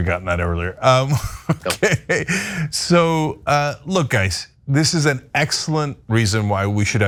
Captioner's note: laugh